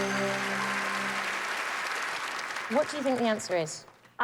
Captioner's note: cheers and applause